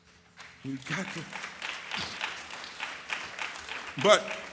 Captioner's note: audience applauds